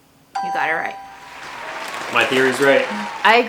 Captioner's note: crowd cheering